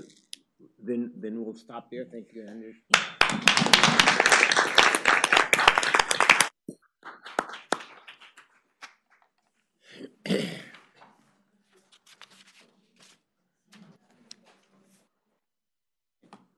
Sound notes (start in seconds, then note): 2.9 applause